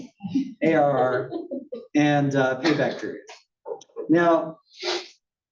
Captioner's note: laugh